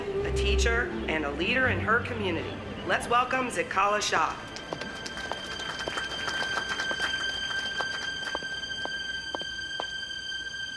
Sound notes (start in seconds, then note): 4.5 audience applauds; 7.3 music intensifies